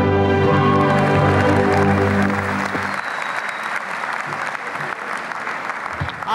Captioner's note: applause